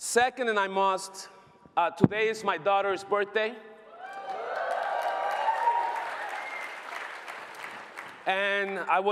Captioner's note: applause